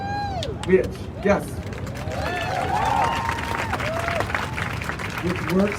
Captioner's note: crowd cheering